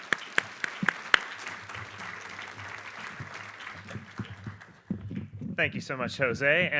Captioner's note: applause